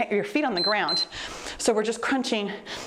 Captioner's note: timer beeps